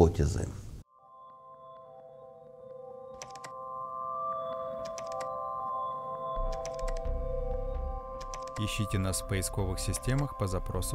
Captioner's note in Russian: звуки клика мыши